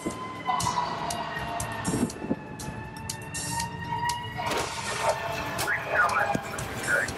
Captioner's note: emergency sirens